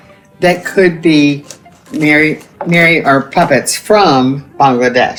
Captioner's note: none